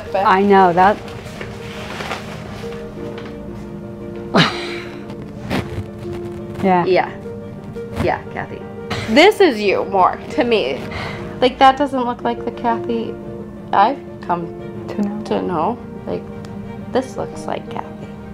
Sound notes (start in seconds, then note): 4.3 chuckling